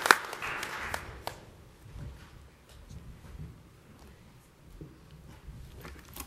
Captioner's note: applause